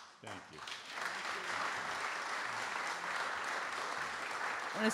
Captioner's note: audience Applause